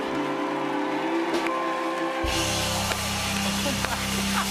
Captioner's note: cheers and applause